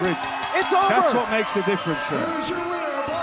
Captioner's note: bell ringing